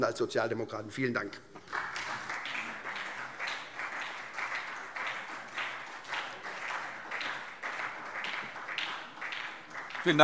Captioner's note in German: Beifall SPD